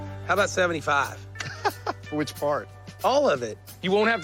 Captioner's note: laughs